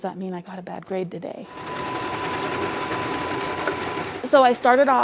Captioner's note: sewing machine sounds